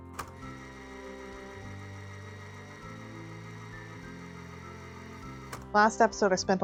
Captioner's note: fast Forwarding Noise